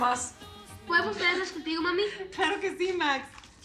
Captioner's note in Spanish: Max habla entre dientes